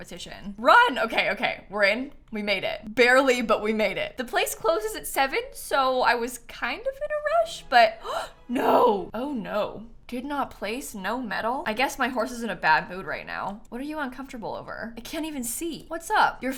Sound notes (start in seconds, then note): 8.0 gasps